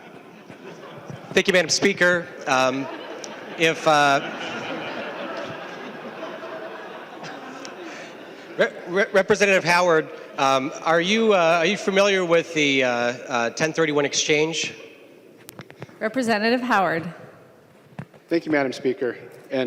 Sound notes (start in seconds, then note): 10.2 laughing